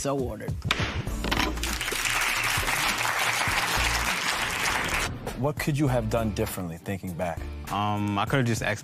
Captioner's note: applause